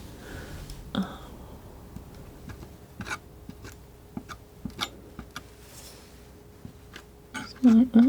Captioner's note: scratching